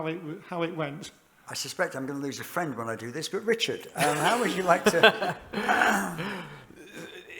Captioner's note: laughter